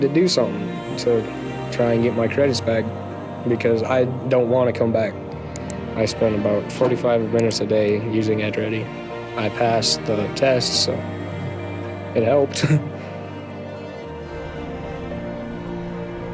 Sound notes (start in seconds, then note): 12.4 laughs